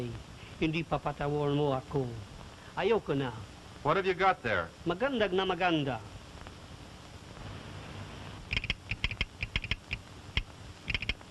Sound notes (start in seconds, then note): 4.9 speaking in foreign language; 8.7 keys clacking